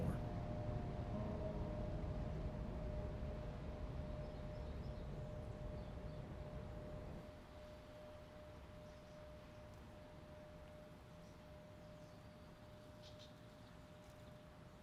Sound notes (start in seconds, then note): 5.7 birds chirping